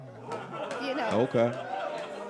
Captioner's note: crowd cheering